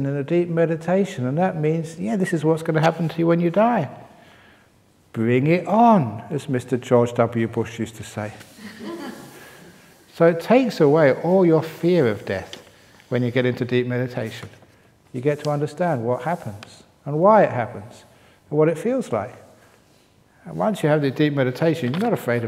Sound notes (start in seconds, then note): 8.5 laughter